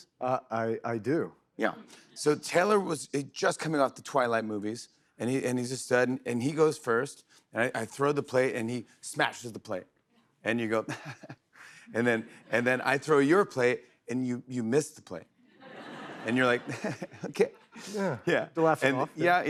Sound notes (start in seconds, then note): 10.8 chuckles; 15.5 laughter; 15.6 chuckles